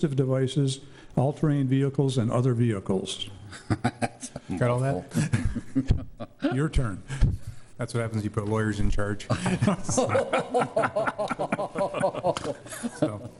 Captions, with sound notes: all-terrain vehicles and other vehicles. (chuckles) Got all that? Your turn. That's what happens when you put lawyers in charge. (all laughing)